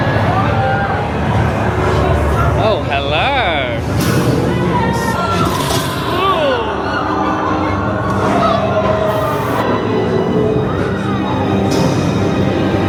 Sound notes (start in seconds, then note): 0.3 spooky music; 4.0 spooky music; 4.2 guests screaming